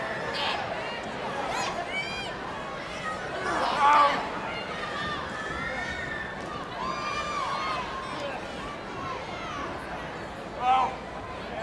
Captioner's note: crowd cheering